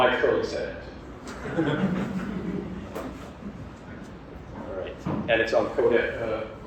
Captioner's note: laugh